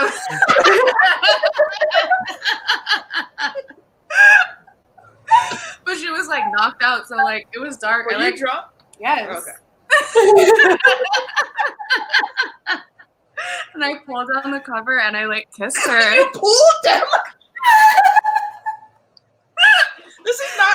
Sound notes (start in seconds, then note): 0.0 all laugh; 9.9 all laugh; 17.6 all laugh